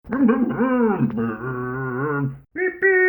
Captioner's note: Scruff makes scooter noises